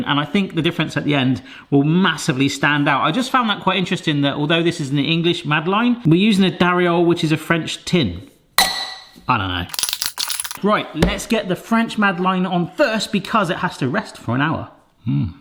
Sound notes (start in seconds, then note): 9.7 tins clink